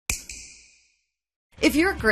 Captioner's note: snap